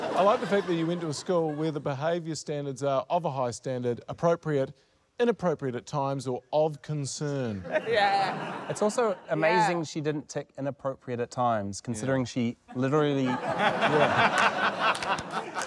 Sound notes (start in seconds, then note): 7.6 laughter; 12.8 laughter